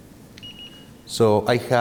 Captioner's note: thermometer gun beeps